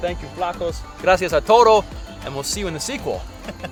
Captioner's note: speaking Spanish